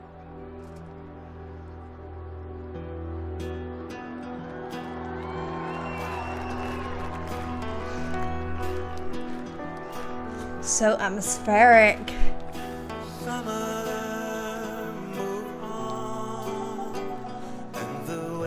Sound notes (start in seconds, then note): 3.4 audience cheering